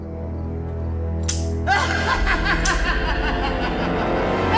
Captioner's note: laughing